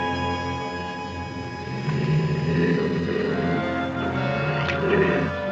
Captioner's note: growling